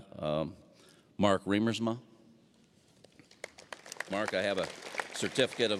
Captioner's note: applause